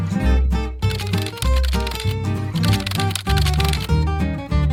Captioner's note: keyboard clicking